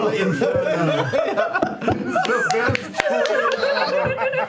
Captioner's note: laughter